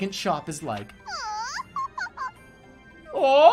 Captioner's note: in-game voices